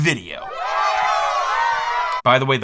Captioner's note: crowd cheering